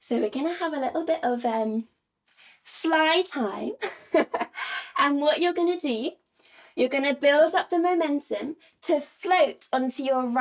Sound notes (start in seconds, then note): 3.8 giggles